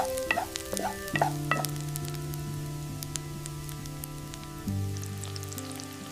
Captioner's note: corn kernels sizzling in the pan